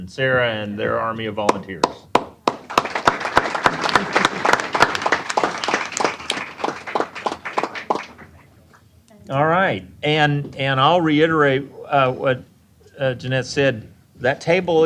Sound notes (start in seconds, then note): 2.2 applause